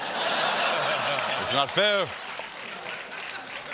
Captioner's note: laughter